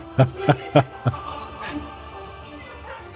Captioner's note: laughs